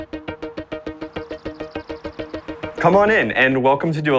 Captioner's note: birds chirping; lively music playing